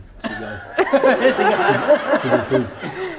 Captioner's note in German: Gelächter